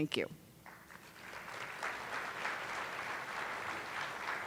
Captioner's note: attendees applauding